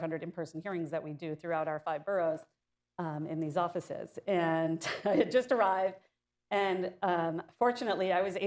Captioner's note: laughs